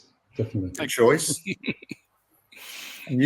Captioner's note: laughs